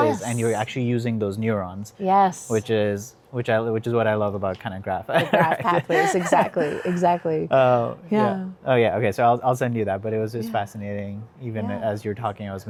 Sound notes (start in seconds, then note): 5.2 chuckles